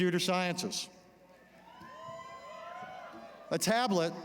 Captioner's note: cheering